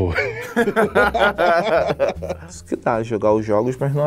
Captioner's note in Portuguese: risadas